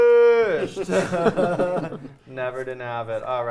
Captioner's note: players chuckling